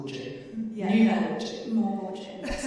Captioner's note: chuckling